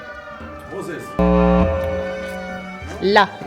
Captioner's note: wrong answer tone